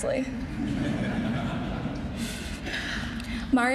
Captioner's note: laughing